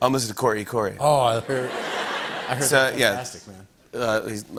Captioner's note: laughter